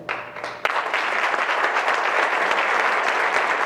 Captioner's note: crowd claps